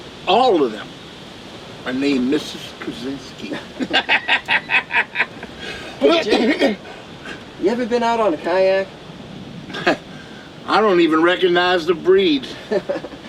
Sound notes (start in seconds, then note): 3.6 both laughing; 6.2 Jake coughing; 12.4 laughs; 12.5 Bradley laughs